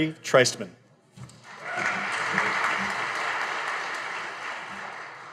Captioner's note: audience applauding